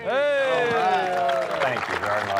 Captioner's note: cheering and applause